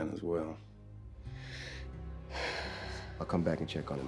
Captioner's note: sighs